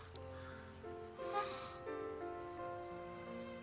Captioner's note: gasps; chirping